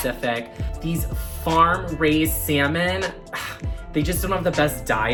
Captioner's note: scoffing